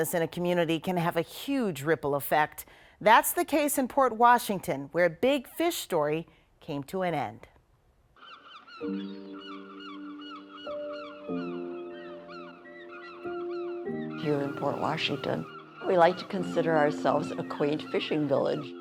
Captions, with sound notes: - Losing an iconic business in a community can have a huge ripple effect. That's the case in Port Washington where a big fish story came to an end. (birds calling) (gentle instrumental music) - Here in Port Washington,